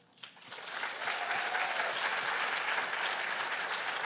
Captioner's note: applause